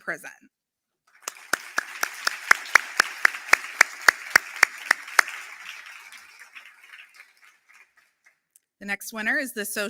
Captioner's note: applause